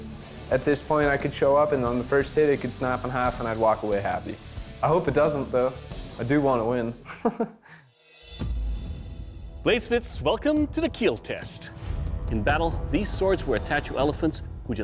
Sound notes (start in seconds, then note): 7.0 laughs